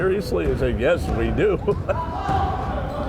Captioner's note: chuckles